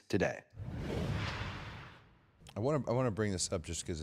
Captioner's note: logo whooshing